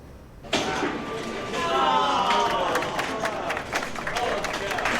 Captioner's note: cheers and applause